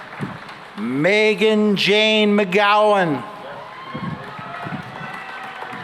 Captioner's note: cheering and applause